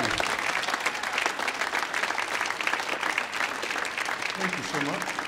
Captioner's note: audience whoops and applauds